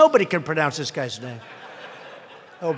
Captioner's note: laughter